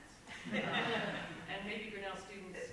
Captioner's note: audience laughs